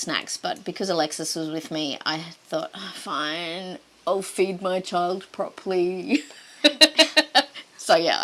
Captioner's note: laughter